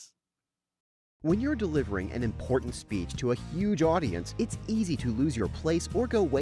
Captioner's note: voiceover